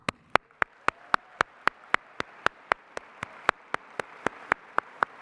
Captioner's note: applause